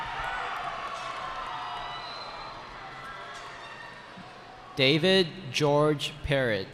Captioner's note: cheering